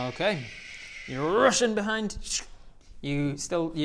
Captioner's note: tsshn